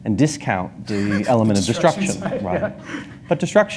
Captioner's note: laughs